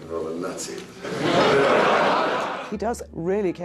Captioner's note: audience laughs